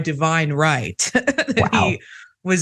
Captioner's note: laugh